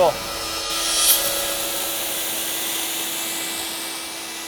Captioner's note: spraying